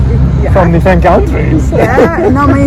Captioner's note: laughing